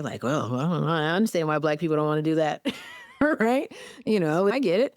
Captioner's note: laughs